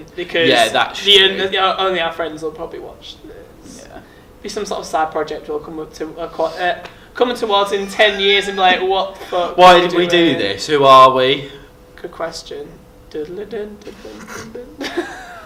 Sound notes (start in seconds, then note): 5.9 mumbles; 13.2 starts singing a random tune; 14.1 laughing